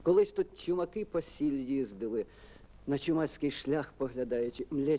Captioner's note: speaks in Ukrainian